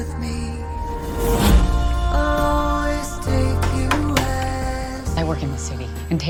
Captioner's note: door knocks